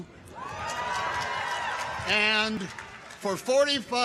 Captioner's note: audience cheers; audience applauds